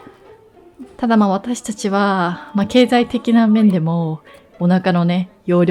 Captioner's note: laughs